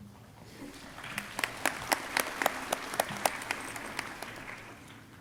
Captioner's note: crowd applauding